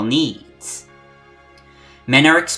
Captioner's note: breathe